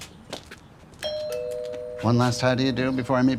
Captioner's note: doorbell rings